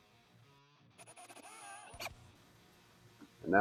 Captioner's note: drilling noises